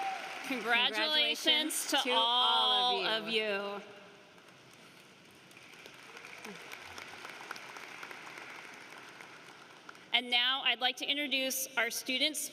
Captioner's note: applause